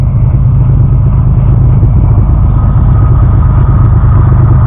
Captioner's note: train is passing